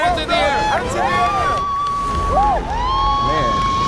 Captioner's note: cheering